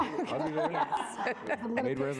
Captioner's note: directors laughing